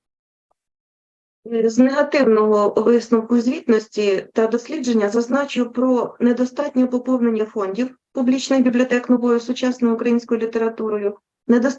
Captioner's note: foreign Language Spoken